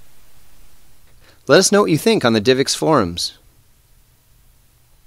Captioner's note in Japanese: 英語